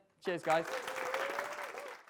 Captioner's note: audience applause